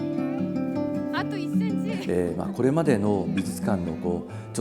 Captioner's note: laughs